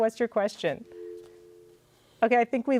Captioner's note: dial tone rings